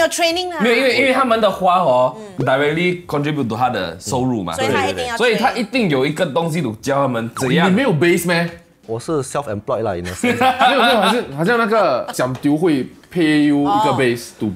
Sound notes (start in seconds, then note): 10.5 laughs